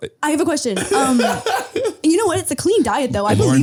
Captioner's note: Harry laughing